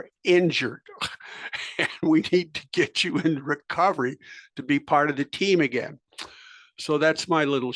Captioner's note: laugh